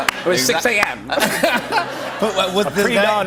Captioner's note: laughter